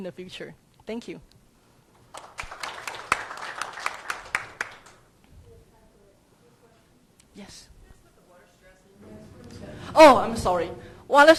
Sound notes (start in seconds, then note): 2.1 crowd applauds